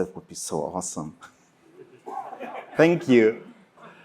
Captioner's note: laughter